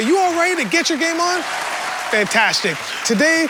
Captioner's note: cheering